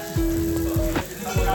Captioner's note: laughs